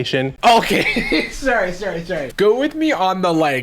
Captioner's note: chuckles